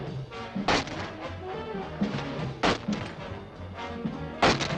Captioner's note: boards thudding